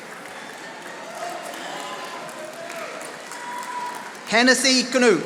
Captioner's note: audience applauding